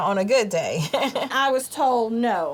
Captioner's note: laughs